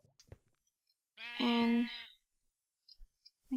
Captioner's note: baaa